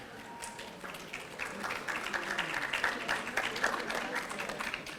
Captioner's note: audience applauding